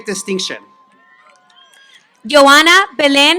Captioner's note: applause